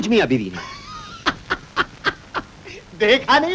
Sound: laughing

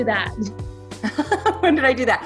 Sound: laughs

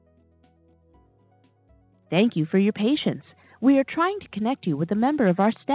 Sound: recording plays

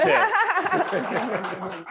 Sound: crowd applauds; laughs

